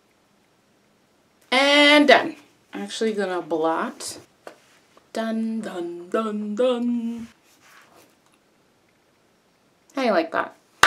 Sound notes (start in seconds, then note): 4.1 sing-song voice